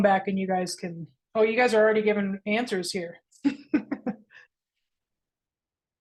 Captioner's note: laughs